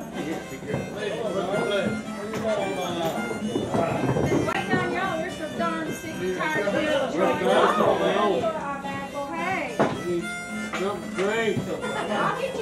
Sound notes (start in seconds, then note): 7.4 speaker cut off by people chattering